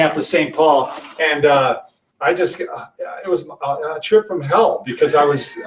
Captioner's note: laughs